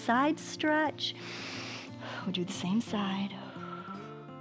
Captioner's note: inhales and exhales